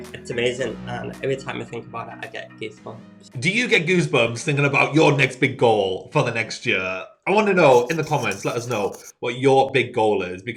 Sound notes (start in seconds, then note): 7.7 chalk scratching